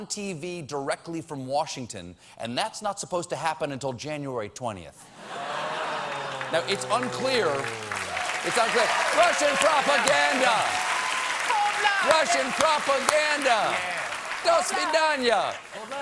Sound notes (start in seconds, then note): 5.6 cheers and applause